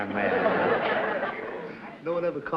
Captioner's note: laughter